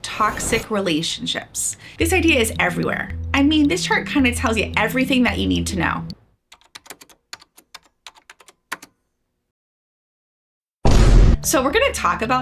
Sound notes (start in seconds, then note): 6.5 typing